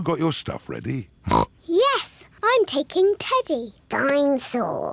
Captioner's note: oink